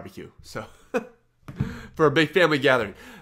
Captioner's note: laughs